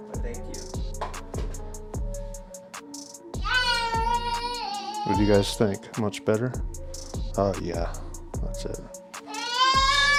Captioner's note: baby screams